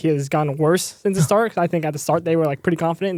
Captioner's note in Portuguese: risos